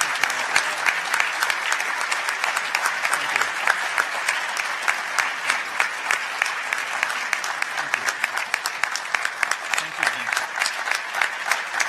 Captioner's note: applause